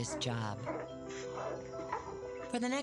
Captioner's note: puppies grunting